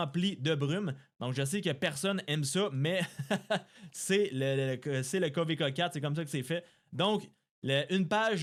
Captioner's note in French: rires